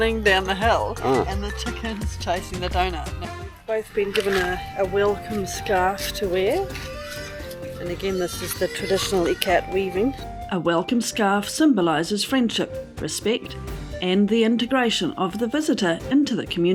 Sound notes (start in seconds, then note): 9.8 pig squealing